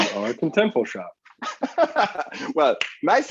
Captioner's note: laughs